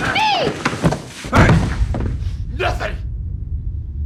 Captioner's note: loud thud